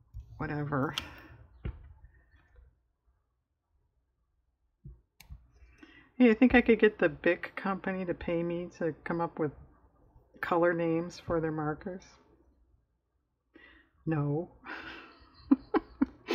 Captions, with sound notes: you think i could get the Bic company to pay me to come up with color names for their markers? no (laughs)